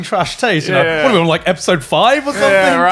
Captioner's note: laughing; chuckles